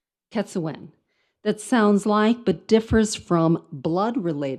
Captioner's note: speaks in foreign language